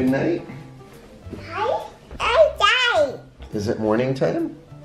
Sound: babbling

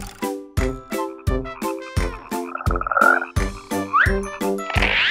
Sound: frog croaking

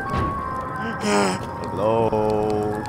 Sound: sob

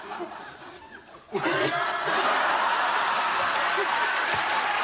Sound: laughs

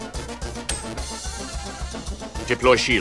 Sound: click

